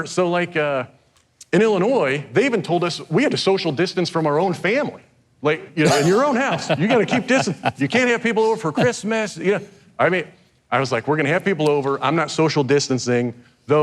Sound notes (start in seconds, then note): 5.8 host laughing; 8.8 host chuckles